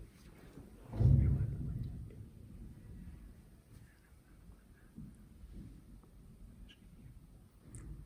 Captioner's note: whisper